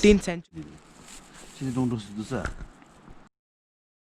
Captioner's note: in Bhutanese Language